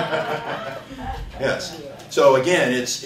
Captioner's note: laughter